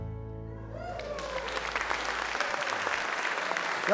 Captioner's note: audience Applause